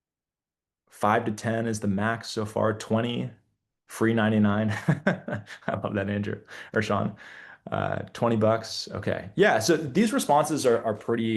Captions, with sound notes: Five to 10 is the max so far, 20, free 99. (Laughs) How about that, Andrew or Sean? 20 bucks, okay. Yeah, so these responses are pretty